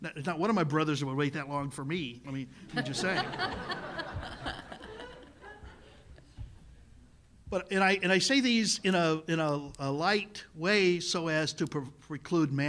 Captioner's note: laughter